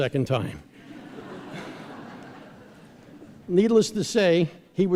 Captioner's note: laughter